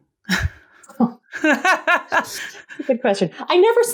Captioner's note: laughter